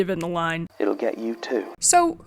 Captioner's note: playing audio from podcast